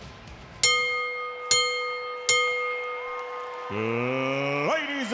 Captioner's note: bell ringing